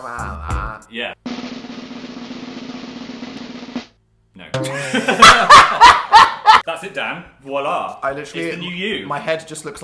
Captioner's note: drumroll; both laugh